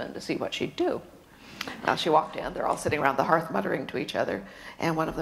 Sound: none

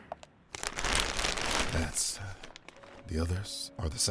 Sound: tarp rustles

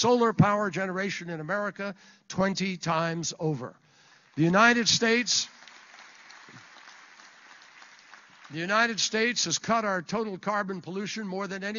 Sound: applause

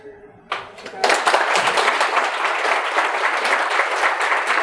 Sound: audience applauding

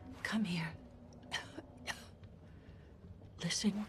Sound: coughs

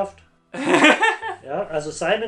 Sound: laughs

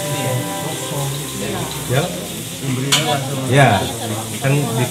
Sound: people sounds

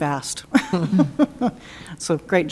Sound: laughing

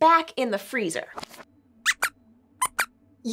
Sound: squeaks squeaks

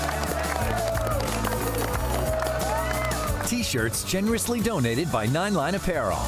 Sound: applause

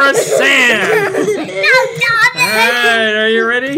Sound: child laughing

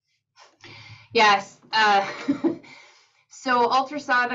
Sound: laughs

